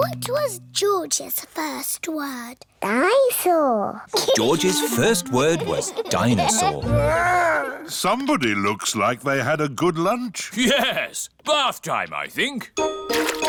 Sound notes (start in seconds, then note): 4.1 giggles